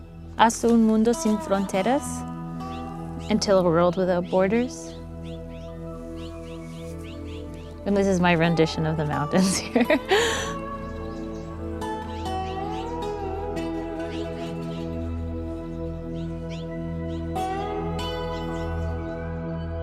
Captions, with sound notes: "Hasta un mundo sin fronteras." Until a world without borders. And this is my rendition of the mountains here. [laughs]